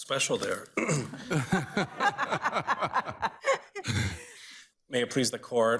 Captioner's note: justices laugh